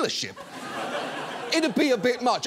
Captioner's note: audience laughs